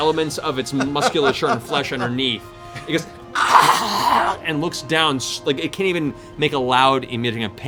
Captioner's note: snarls